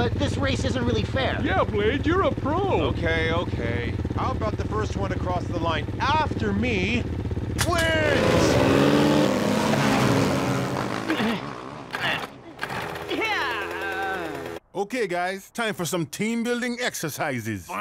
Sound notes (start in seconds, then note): 9.5 grunting; 11.8 engine sputtering